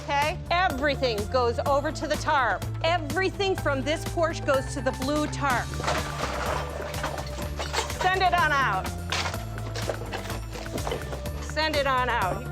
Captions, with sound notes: Everything goes over to the tarp. Everything from this porch goes to the blue tarp. (items clattering) Send it on out. Send it on out.